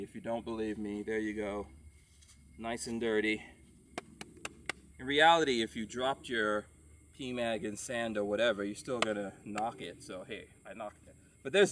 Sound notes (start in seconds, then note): 3.9 tapping